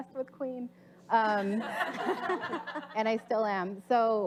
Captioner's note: audience laughs